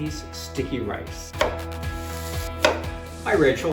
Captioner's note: strident music; onions sizzle; knife clops